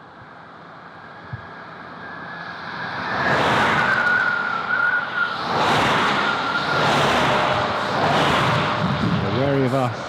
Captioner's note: sound of passing cars